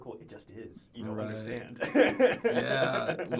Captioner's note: laughs